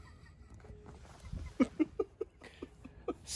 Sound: tertawa

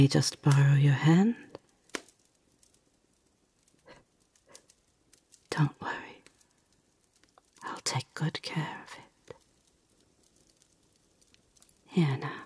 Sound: whispers in your ear

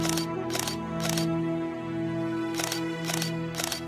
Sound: camera flashes

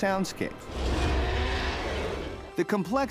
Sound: roar

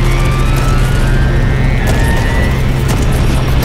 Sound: thunderous stomping

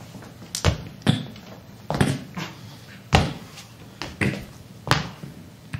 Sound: footsteps clomping

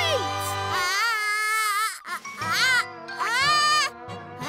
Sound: groaning

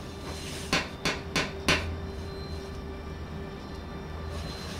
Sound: knock on the door

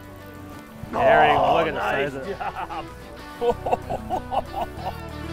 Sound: voiceover

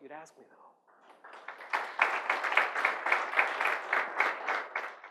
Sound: audience applauds

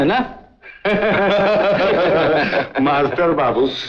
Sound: laughs

